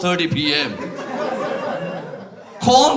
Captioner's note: laughter